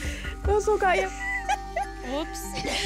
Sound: laughs; speaking foreign language; both laughing; laughing

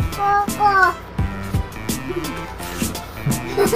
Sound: laughing

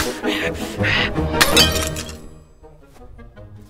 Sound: glass shatters

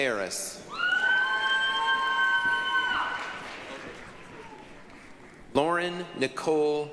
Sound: applause, cheering

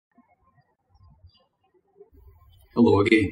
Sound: birds chirping

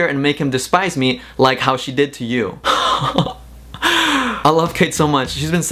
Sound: laughs

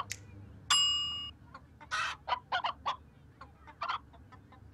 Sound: chicken clucking

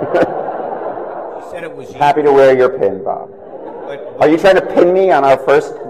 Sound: laughter

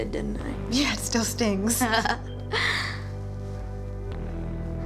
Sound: laughs

